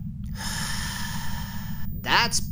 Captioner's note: Narb exhaling deeply